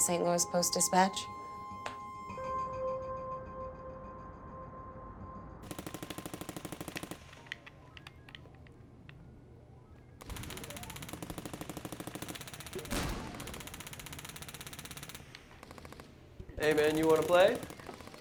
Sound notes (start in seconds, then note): 2.5 expressive electronic tone; 5.7 gunfire rattling from video game; 7.2 controller clacking; 10.2 gunfire rattling from video game